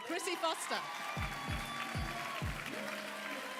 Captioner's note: applause and cheering